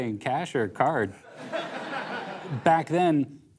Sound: laughter

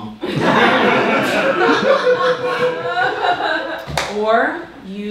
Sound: audience laughing

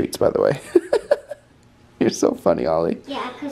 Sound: laughs

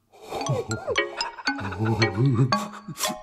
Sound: divine heavenly music; laughs; lighthearted music

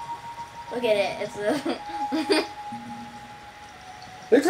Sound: laughing

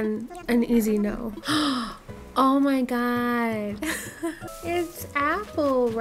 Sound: laughing

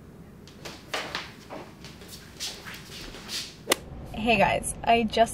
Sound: gentle footsteps

